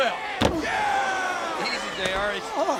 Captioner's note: head thuds